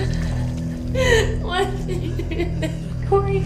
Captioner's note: crying